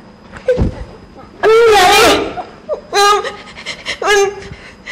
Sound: stuttering

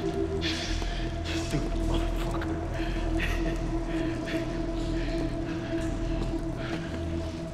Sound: tense music; chuckles

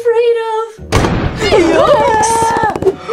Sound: thunder

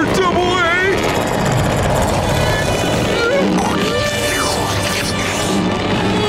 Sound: suspenseful music playing; growling; suspenseful music intensifying

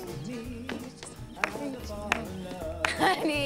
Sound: clapping

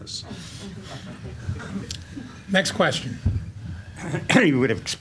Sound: laughing

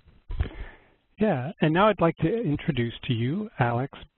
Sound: voiceover

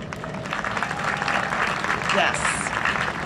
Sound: cheering and Applause

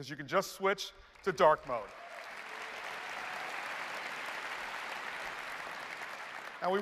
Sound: applause

